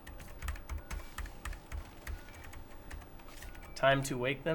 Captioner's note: keys clicking